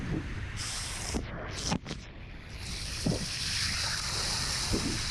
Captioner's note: water pipe hissing